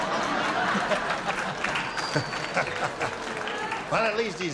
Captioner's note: laughter